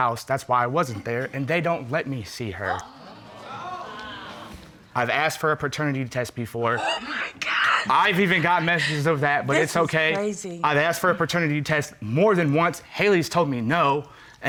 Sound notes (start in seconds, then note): 2.6 audience exclaiming